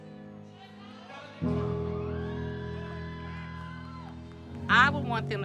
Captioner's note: crowd cheering